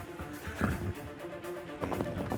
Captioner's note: horse blusters